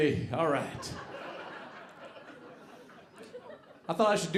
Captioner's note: audience laughing